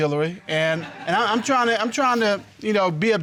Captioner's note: audience laughing